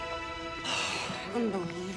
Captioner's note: Nora sighs